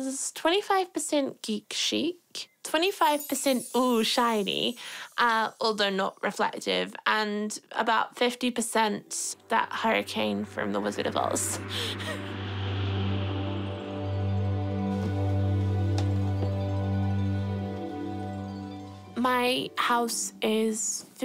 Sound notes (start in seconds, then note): 11.2 chuckles; 12.0 wind whistles; 14.0 tranquil music